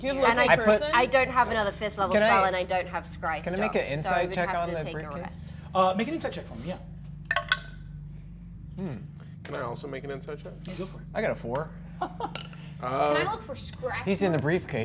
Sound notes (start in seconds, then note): 8.1 dice rolling